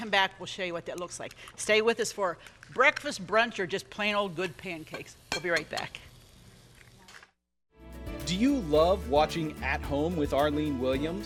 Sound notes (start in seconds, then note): 6.7 eggs cracking